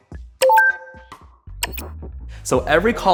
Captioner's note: beeping